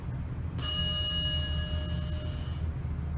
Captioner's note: ding